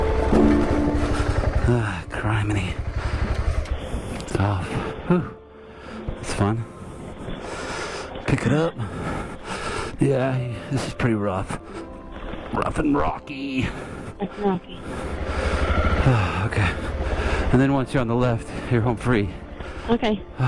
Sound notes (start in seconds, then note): 0.2 drops bike; 3.4 turns off engine; 14.8 grunts lifting bike